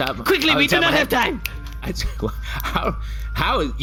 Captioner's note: snapping